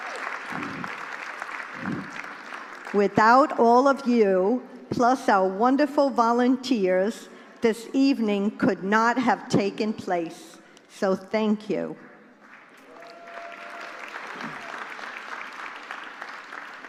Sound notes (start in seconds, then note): 11.7 applause